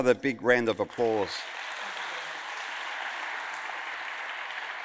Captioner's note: audience applauds